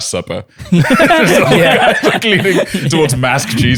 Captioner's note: laughter